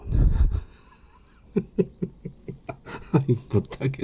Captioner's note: laughing